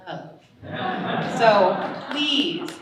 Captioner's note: audience laughing